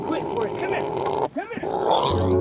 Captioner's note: Otis loudly grunting; Otis squeals